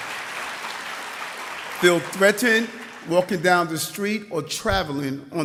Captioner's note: applause